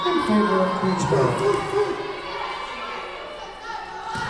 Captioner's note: whistle blowing